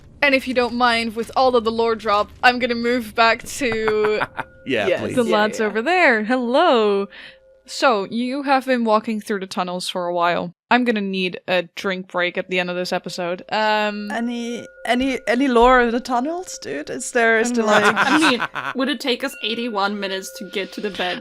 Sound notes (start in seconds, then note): 3.5 laughs; 3.8 archival ambiance fades away; 17.5 laughter